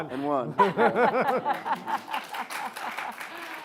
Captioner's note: laughs; applause